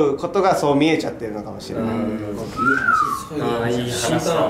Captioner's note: someone whistle